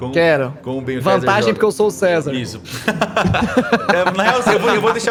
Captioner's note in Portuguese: risada